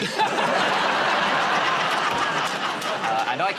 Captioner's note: laughter